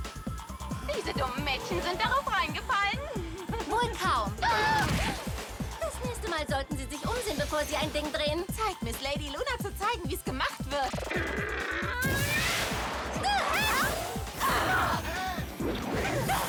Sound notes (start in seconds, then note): 4.2 laughing